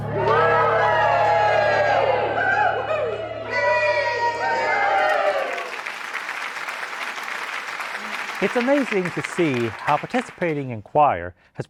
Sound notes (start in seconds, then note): 0.0 cheering; 4.9 applause